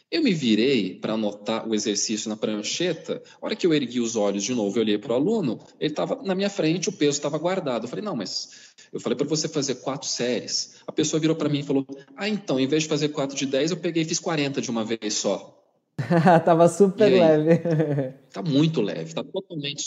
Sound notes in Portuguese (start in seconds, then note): 16.0 Risos